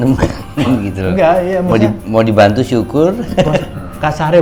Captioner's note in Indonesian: tertawa